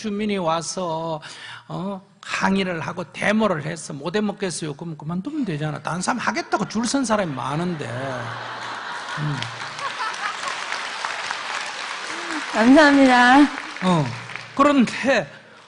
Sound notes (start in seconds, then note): 9.5 audience Laughter and Applause